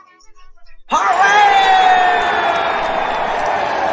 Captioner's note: all cheering